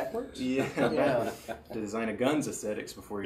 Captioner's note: laughing